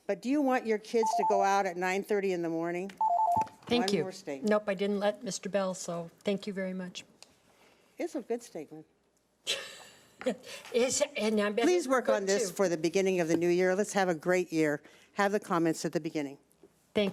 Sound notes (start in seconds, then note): 3.0 alarm; 9.5 laughing